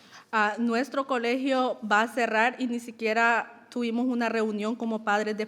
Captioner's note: speaking in foreign language